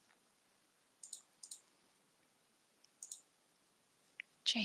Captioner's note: mouse clicking